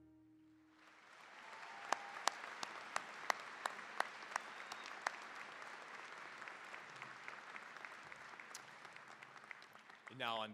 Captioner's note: cheering, applause